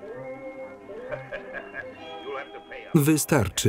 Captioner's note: laughing